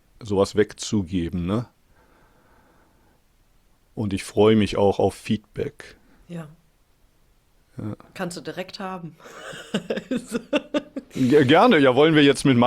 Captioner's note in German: gelächter